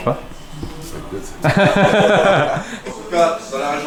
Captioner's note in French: rires